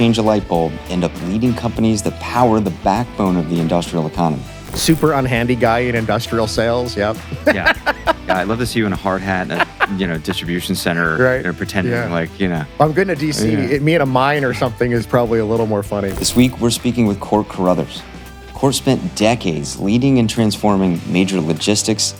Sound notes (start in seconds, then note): 9.1 speaker laughs